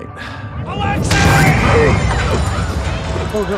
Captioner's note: Alexei gasps